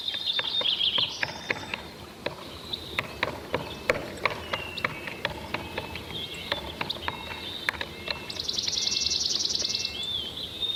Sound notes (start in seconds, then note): 2.9 bird thumping